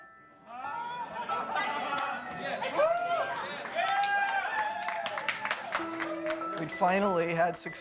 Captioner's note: cheering and applause